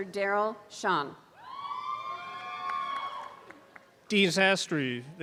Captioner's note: applause and cheering